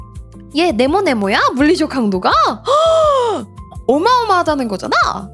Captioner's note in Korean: 헉 소리